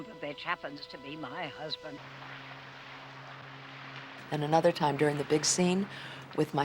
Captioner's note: boat Approaching